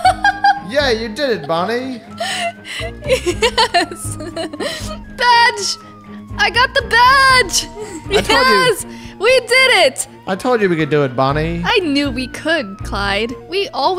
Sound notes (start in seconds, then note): 3.7 laughs